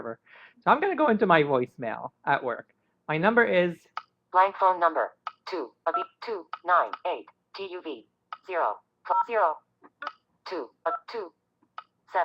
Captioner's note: Siri talking